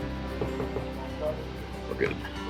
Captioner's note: knocking